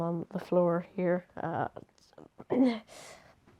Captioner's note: a few strange noises from his mouth